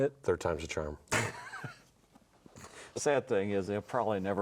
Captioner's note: everyone laughs